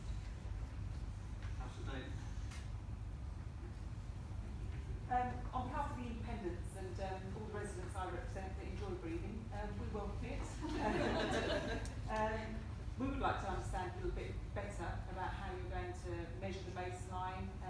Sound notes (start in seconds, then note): 10.6 laughter